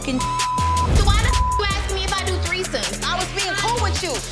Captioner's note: beep